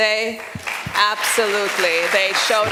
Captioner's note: applause